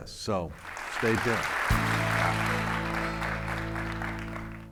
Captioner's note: audience clapping